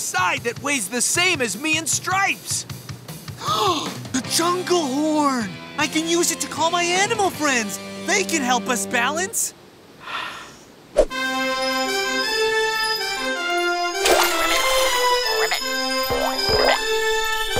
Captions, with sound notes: that weighs the same as me and Stripes. The jungle horn! I can use it to call my animal friends. They can help us balance! [blowing horn] [ribbit]